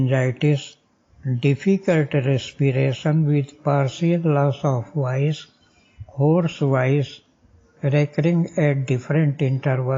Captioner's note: hoarse voice